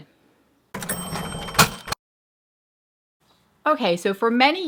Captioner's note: cash register opening and dinging